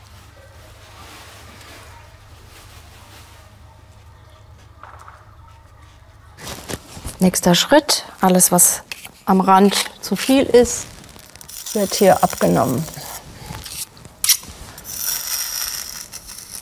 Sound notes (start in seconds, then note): 14.8 sanding